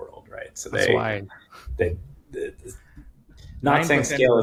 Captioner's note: chuckling